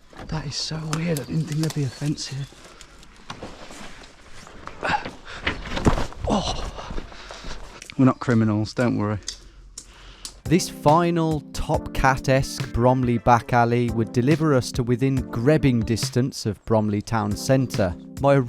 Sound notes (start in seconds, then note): 6.0 feet stomping; 6.2 groaning